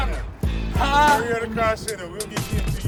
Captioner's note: customer exclaims